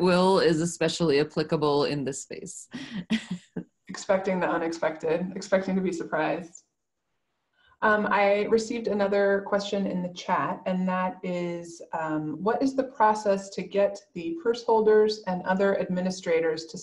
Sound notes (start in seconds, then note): 2.9 laughs